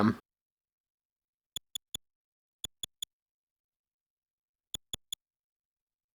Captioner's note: soft, high-pitched clicks